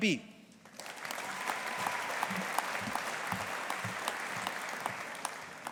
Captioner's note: audience applauding